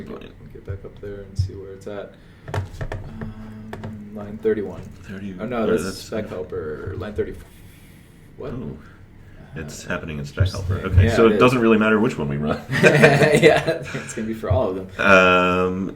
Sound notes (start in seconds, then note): 12.6 laughter